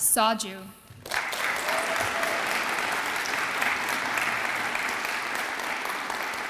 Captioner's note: audience applauds and cheers